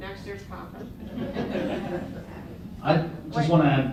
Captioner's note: laughter